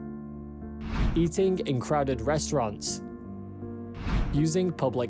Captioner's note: screen swishes